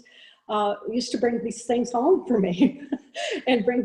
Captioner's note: chuckles